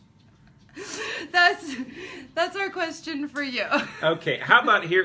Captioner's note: laughing